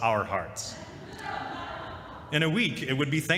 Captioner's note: laughter